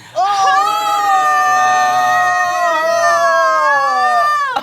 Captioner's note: both cheering